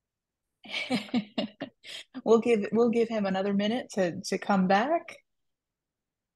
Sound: laughs

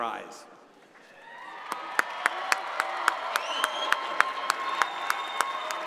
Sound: audience applauding

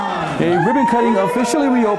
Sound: crowd cheering

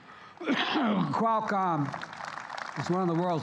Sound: applause

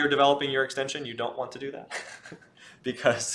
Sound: laughs

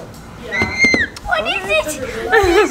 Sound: whispering; screeching; laughs

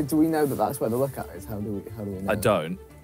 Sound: none

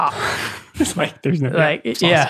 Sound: laughs

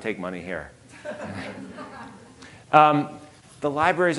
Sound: audience laughing

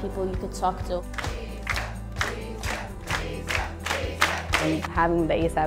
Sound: Chanting: ASAP

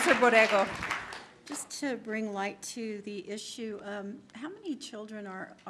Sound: applause

